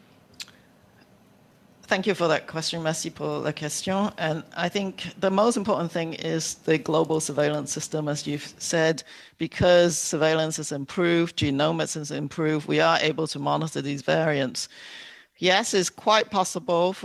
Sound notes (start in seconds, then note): 9.0 speaking French